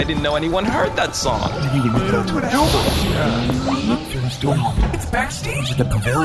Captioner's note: door opens